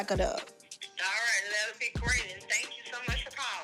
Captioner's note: on phone